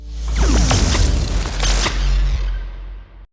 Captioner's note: intense electric sound